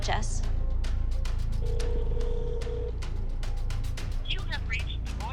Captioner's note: phone ringing